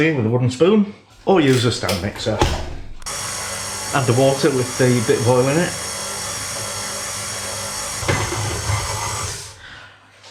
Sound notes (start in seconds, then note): 6.0 machine whirring and chugging